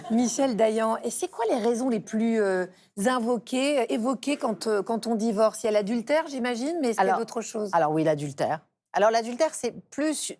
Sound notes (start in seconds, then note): 0.0 laughs